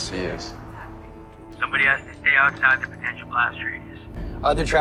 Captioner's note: over comms